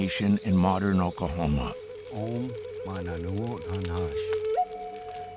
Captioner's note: speaking Native language